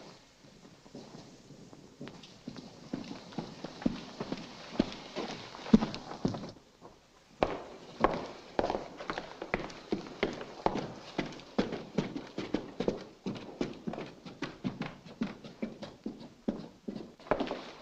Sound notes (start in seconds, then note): none